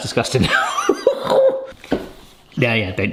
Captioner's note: laughs